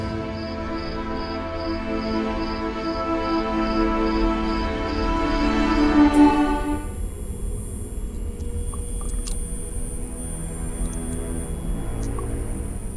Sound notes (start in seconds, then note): 0.0 brooding orchestral music; 0.3 crickets chirping; 5.8 lights buzzing; 10.8 dark orchestral music